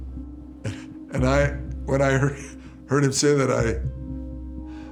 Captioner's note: chuckles